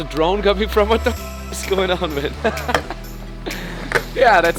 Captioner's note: laughs